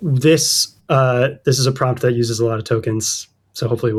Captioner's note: uh